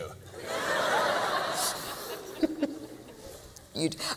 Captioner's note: laughter